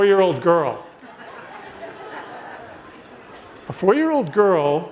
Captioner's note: audience laughs